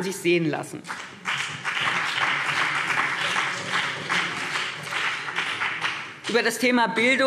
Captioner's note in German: Beifall BÜNDNIS 90/DIE GRÜNEN und vereinzelt CDU